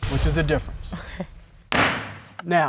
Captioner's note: gavel strikes